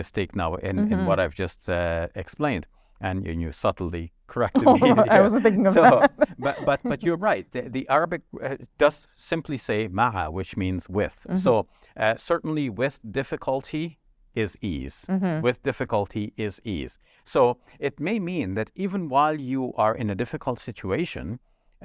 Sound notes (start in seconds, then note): 4.5 laughs; 9.1 speaks in foreign language